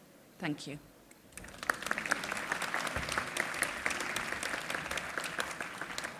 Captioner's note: applause